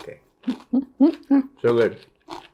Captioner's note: giggling